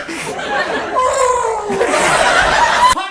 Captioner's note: aaaaghhghghg!